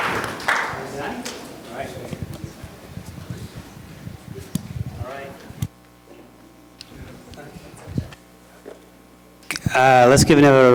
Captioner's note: applause; chatter